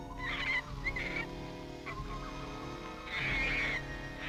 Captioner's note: monkey chittering